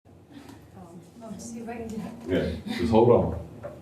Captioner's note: laughter